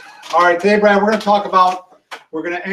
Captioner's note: laughs